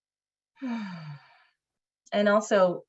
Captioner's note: deep exhale